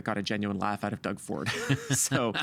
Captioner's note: laughing